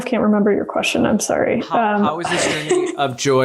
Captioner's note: laughs